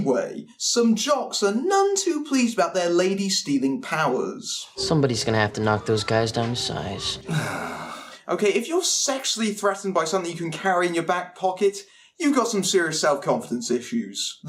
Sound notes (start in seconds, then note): 7.2 groans